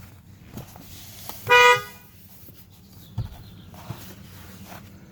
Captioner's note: car horn honking